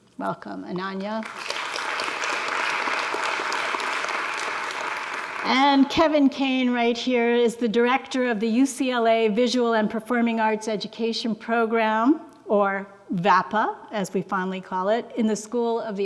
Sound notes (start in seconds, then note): 1.2 audience applauds